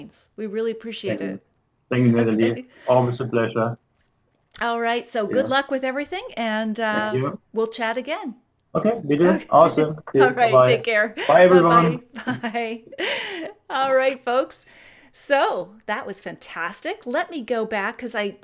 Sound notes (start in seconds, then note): 7.4 speaking foreign language